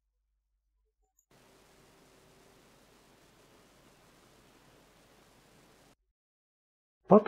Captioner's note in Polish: Szum z nagrania